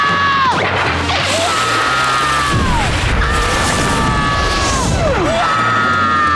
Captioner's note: screaming